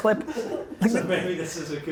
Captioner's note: laughs